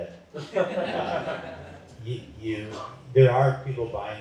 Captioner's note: laughter